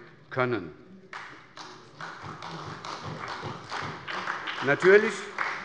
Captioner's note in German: Beifall bei der SPD